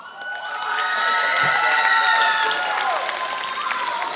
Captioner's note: applause